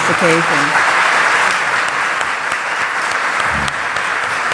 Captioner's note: audience applauds